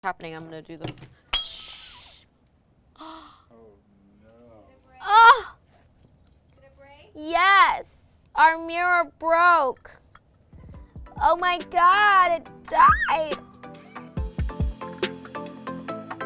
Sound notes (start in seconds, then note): 1.3 glass breaking; 3.0 gasps; 13.2 upbeat music